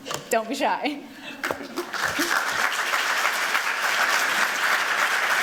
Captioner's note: applause